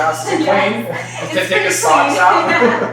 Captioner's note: laughter